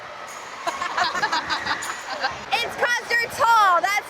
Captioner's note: women laughing